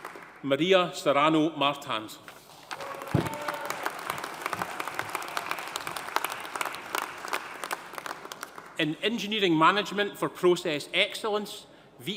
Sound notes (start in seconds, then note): 2.6 audience applauding; 2.7 audience cheering